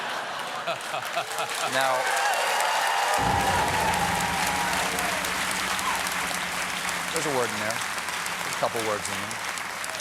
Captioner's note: laughter; cheers and applause